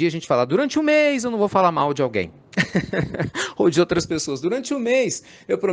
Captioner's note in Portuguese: Risos